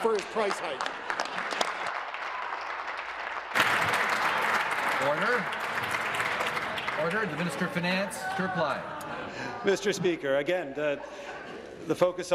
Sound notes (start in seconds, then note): 5.3 applause